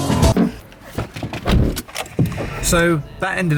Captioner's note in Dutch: meer auto geluiden